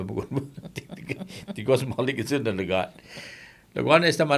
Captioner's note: laughing